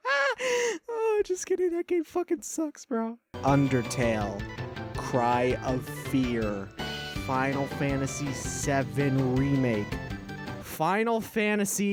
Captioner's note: laugh interupts